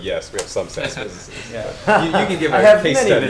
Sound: laugh

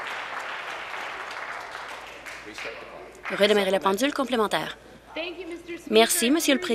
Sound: applause; continued applause

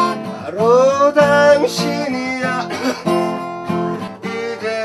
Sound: cough

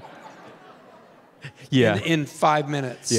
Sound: Tim laughing

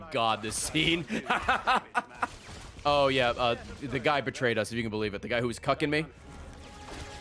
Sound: laughs

